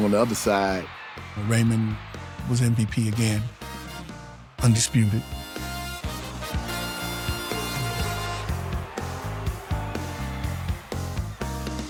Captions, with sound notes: on the other side. Raymond was MVP again, undisputed. (upbeat music) (crowd cheering)